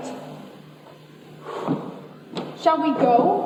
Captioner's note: sighs